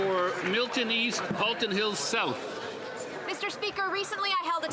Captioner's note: some Applause